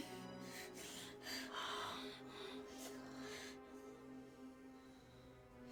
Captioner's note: breathing heavily